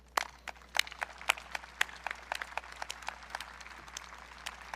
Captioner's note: audience clapping